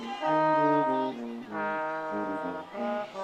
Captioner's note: audience cheering